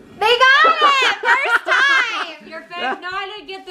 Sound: laughs

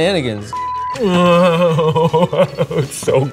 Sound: moaning

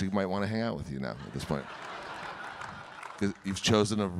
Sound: audience laughing

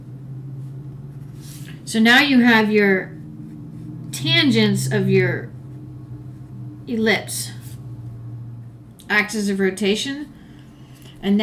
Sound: Traffic

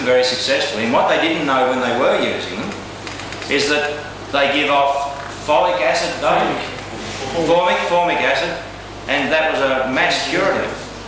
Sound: audience interjects

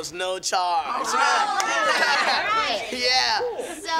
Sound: cheering

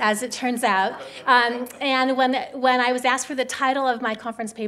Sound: audience chuckling

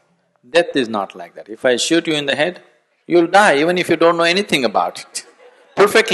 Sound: laughter; laughs

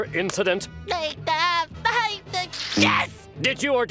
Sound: stammering

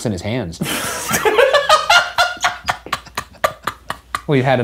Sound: laughing

